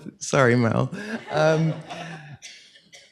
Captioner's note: laughter